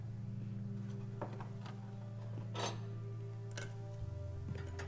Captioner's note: utensils clattering